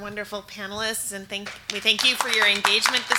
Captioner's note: audience applauds